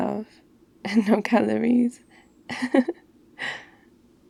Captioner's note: laughs